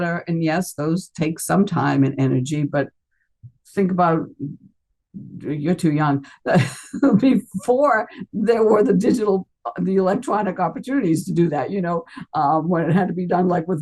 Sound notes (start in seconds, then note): 6.4 laughs